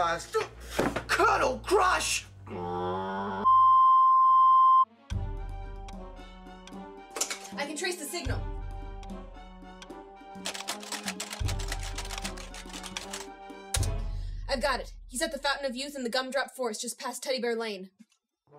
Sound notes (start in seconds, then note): 10.4 keyboard clatter